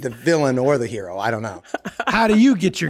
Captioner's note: laughing